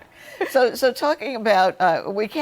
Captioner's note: laughter